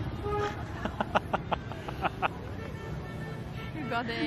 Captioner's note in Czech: smích